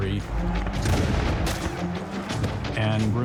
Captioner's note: gunshots